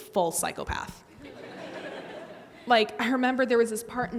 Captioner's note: audience laughs